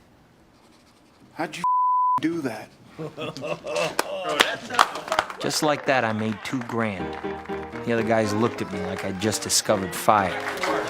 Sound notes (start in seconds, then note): 1.6 beeps